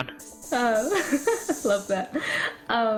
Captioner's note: steam noises; laughs